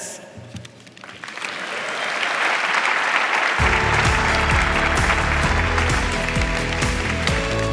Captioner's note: audience applauding; upbeat music